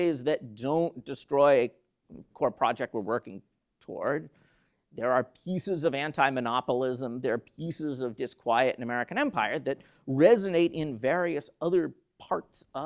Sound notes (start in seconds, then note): none